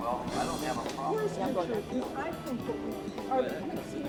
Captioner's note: chatter